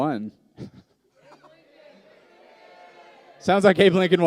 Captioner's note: multiple voices yelling